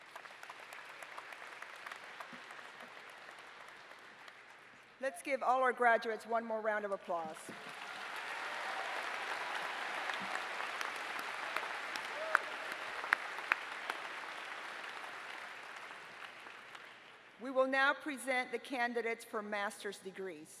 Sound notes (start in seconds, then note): 7.4 applause